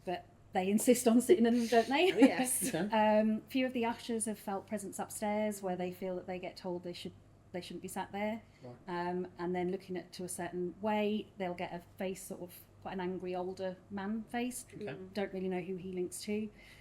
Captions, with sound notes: but they insist on sitting in the, don't they? - Oh yes. (giggles) - Okay. - Few of the ushers have felt presence upstairs where they feel that they get told they shouldn't be sat there. - Alright. - And then looking at, to a certain way, they'll get a face sort of, quite an angry older man face. - Okay. - Don't really know who he links to.